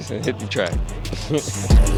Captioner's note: chuckles